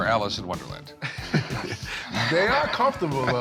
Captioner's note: laughter